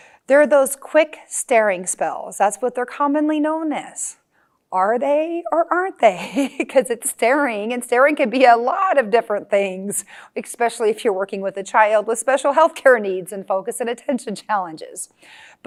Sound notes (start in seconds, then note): 6.2 chuckling